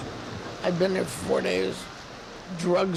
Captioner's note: thunder